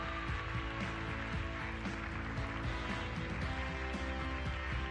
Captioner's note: applause